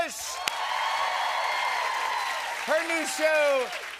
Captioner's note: cheers and applause